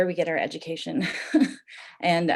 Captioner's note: chuckles